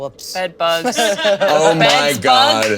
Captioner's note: all laughing